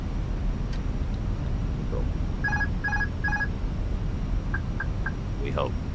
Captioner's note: none